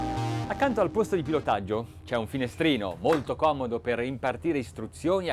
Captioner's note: man speaks in foreign language